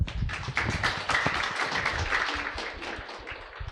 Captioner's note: audience clapping